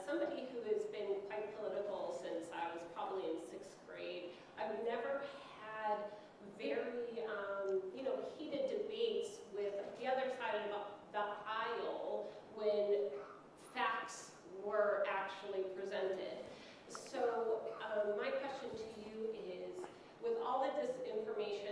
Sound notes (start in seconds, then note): none